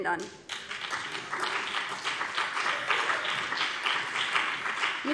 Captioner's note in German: Beifall BÜNDNIS 90/DIE GRÜNEN und vereinzelt CDU